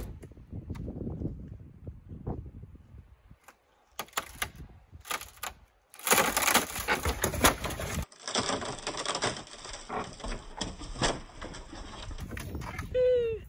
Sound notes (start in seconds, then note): 2.8 cracking sounds; 6.0 loud cracking sound, sound of the balcony hitting the ground